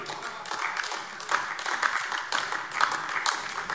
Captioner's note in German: Beifall AfD